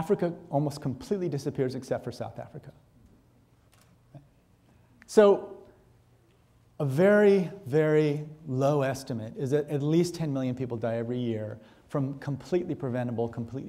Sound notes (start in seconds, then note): none